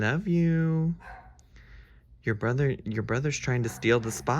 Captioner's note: Pope barking